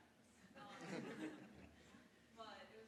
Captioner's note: audience laughs